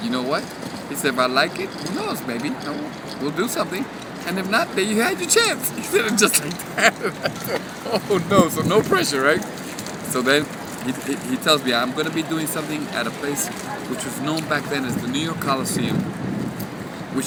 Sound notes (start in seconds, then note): 5.0 laughing